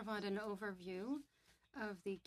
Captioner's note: speaking French